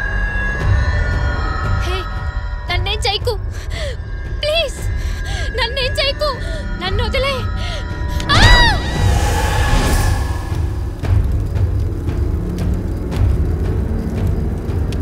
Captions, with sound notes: Hey! Don’t harm me. Please. Don’t harm me. Leave me. [SCREAM]